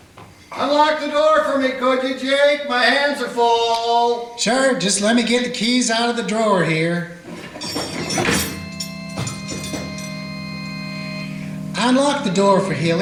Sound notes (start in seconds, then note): 7.5 keys clanking; 8.0 dramatic organ music